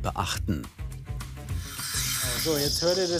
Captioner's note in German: Zischen